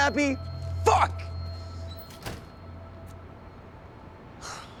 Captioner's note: door shuts; sigh